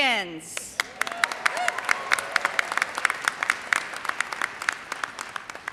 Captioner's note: audience cheers and applauds